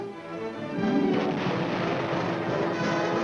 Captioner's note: exploding